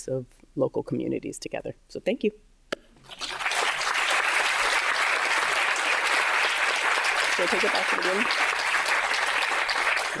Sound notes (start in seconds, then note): 3.0 audience applauding